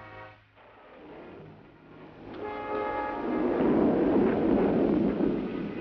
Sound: suspenseful music; thunder clapping

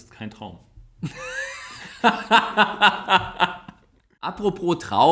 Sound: laughs

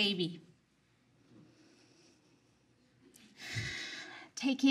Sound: speaker inhales, exhales

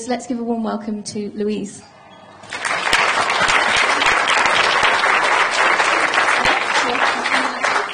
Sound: applause

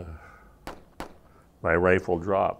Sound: sighs; gunfire

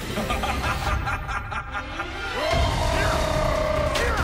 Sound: ominous laughter

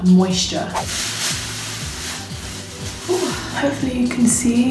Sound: rustling

